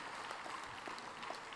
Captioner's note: applause